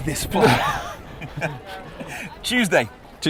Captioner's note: laughing